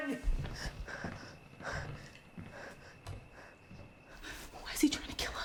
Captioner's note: Claire panting